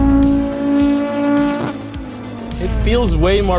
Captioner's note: car engine revs